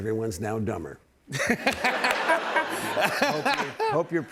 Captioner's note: laughter